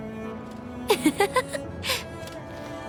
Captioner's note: laughs